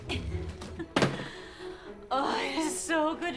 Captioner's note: Amana laughing; cases thudding